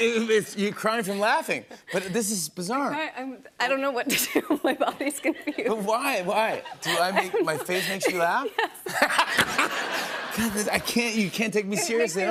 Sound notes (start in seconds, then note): 8.3 laughing; 8.9 laughter